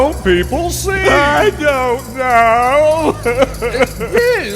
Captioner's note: sobs